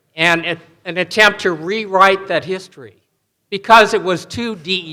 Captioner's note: none